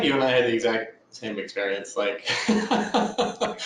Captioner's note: laughs